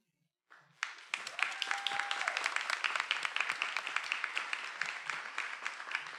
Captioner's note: attendees cheering and applauding